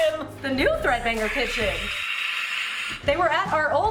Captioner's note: soft screaming noise